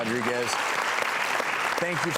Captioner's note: applause